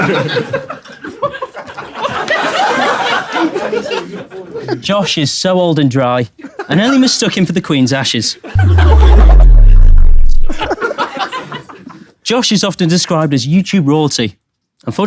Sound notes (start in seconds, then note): 1.5 people in room laughing; 8.5 fuzzy buzzing sound; 10.9 people in room laughing